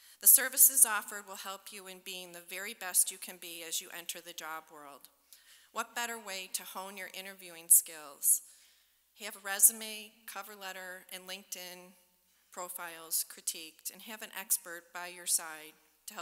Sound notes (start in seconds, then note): none